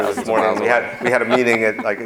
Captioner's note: laughing